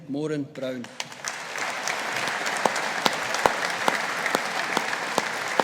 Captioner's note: audience applauding